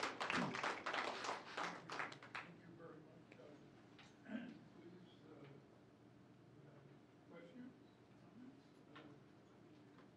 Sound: applause

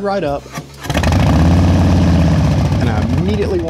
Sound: motorcycle engine roaring

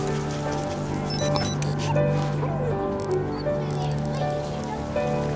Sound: phone Noises

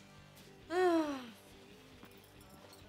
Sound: sighing

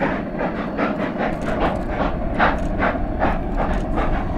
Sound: faster chugging from locomotives

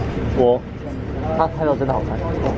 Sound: confident

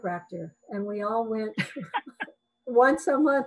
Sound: both laughing

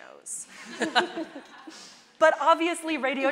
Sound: everyone laughs

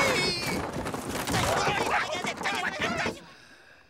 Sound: clamoring

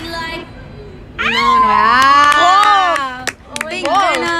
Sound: applause and screams

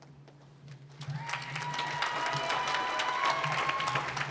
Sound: applause

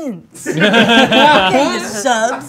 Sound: group laughing

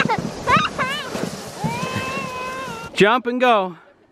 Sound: laughing

